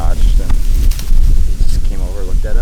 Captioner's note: faintly speaking